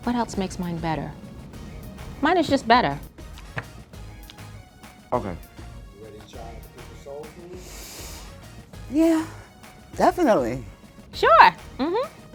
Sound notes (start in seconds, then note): 7.6 inhales